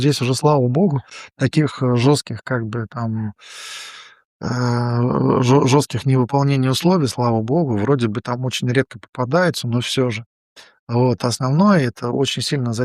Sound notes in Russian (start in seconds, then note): 3.4 вздыхает; 3.4 тяжело вздыхает